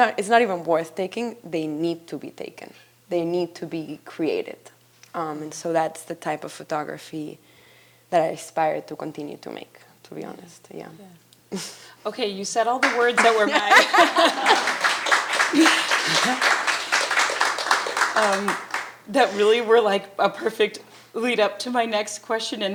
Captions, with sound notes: It's not even worth taking, they need to be taken. They need to be created. And so that's the type of photography that I aspire to continue to make, to be honest. Yeah. - Yeah. Okay, you said all the words that were mine. (attendees applauding) That really were like a perfect lead up to my next question